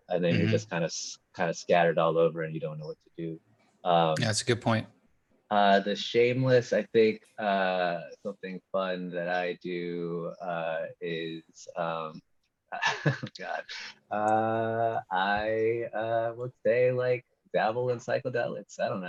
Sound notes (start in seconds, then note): 12.8 chuckling